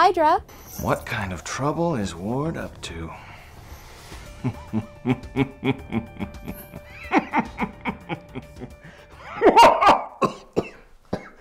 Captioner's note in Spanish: risa malvada